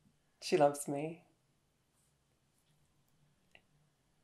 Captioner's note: in English